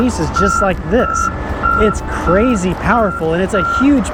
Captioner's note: machine beeping